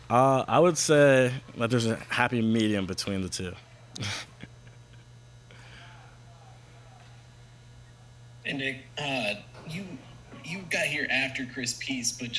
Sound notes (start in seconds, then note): 4.0 laughter